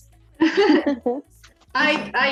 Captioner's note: laughter